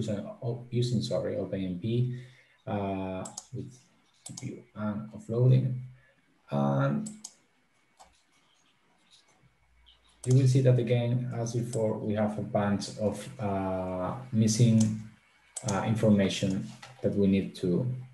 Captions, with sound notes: Using OpenMP, with GPU and offloading. (mouse clicking) Did you we see that again? As before we have a bunch of missing information that we need to provide.